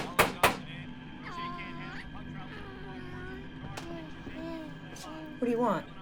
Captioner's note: knocking; baby cooing